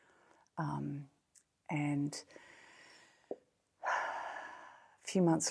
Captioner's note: sigh